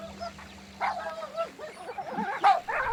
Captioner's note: Pieter barking